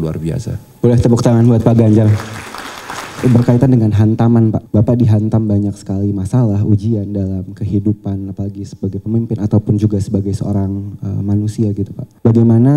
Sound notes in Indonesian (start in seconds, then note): 1.6 tepuk tangan